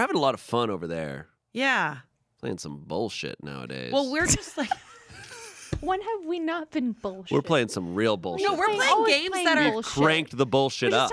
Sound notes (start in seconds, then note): 5.3 everyone laughs